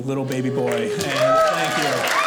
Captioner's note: audience cheers